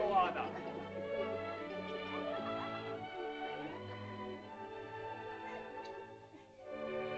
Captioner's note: soft music; children giggle; sentimental music